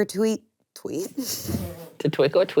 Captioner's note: chuckles